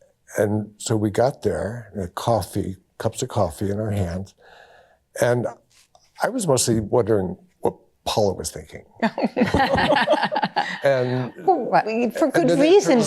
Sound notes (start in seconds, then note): 9.0 laughter